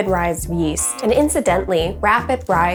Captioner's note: buzzer buzzing